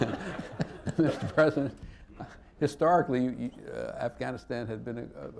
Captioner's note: laughter